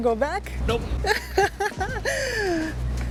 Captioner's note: laughs